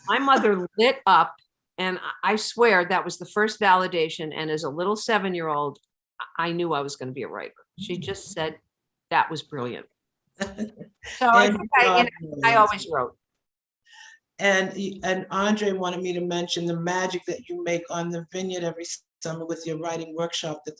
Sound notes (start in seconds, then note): 11.1 laughing